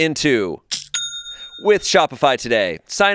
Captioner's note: cash register clangs